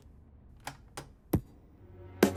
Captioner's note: CD player lid clicks; soft thoughtful music